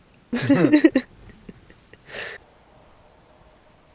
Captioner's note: laughs